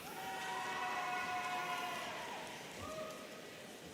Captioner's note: audience cheering